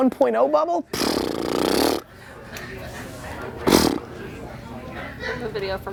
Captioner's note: mouth noise